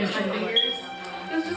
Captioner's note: beep!